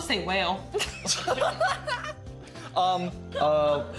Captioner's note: everyone laughing